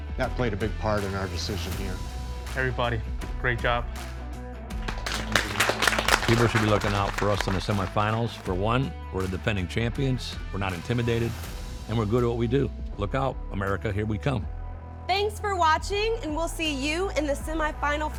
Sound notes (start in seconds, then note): 4.7 all applaud